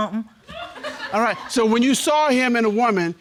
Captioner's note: audience laughs